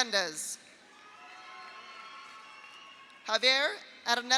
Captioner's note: audience cheers; audience applauds